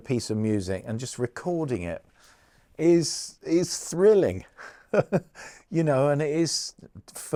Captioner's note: laughs